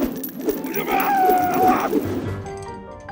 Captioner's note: screaming